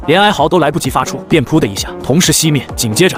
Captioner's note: poof